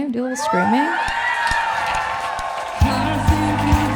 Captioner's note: audience cheering